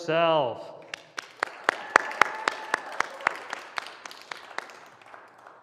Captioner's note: applause